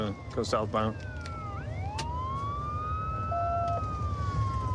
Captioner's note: sirens wailing